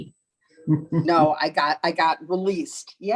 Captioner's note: laughing